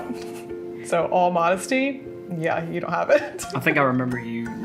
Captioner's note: laughs